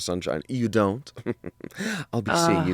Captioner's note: chuckles